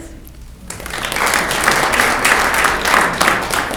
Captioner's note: clapping